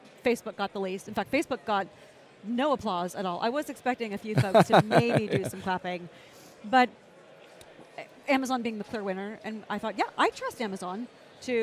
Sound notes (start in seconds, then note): 4.3 laughs